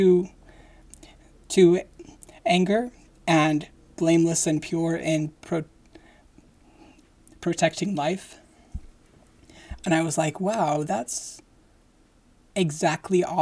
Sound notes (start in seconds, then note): none